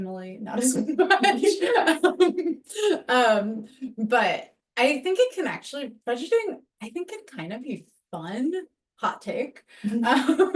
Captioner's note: laughs